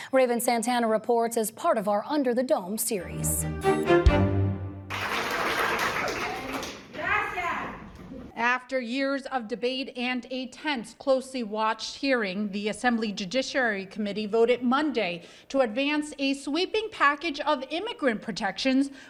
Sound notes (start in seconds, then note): 2.9 upbeat music; 4.8 audience applauding